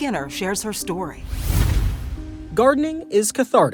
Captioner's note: logo whooshes